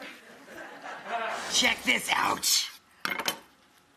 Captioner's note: audience laughs